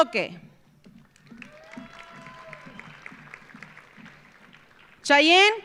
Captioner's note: audience applauding; audience cheering